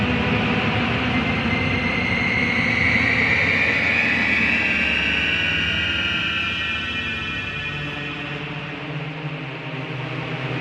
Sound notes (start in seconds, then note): none